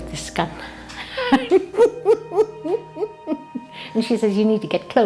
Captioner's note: laughs